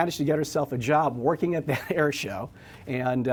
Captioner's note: laughs